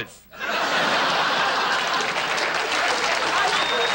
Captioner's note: audience laughs